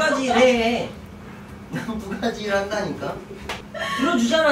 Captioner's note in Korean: 마스크끼고 웃느라 호흡곤란옴 ㅋㅋ